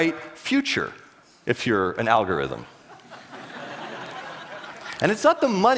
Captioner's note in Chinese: 笑聲